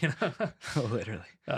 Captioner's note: laughs